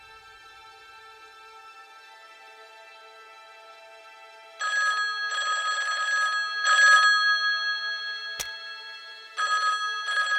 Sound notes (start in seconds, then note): 4.6 cellphone ringing; 8.2 dramatic music; 10.1 cellphone ringing